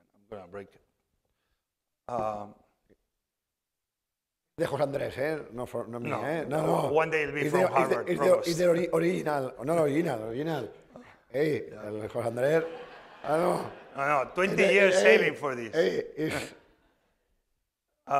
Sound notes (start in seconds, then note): 4.6 speaking spanish; 11.3 speaking spanish; 12.3 laughter